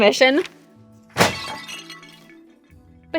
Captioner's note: glass breaks, Simone's eyes start bleeding profusely